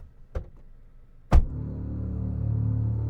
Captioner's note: shutting door; ominous music